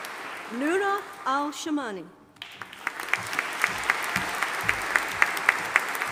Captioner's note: audience applauding